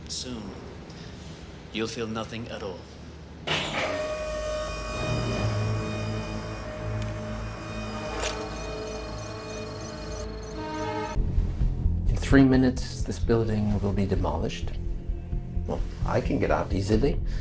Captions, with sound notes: Soon, you'll feel nothing at all. [Machine whirring] [Click] [Beeping] In three minutes, this building will be demolished. Well, I can get out easily...